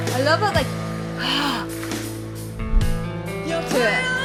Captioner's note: gasps